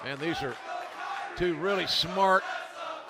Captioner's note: fans chanting